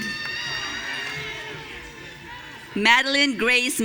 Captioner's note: audience cheering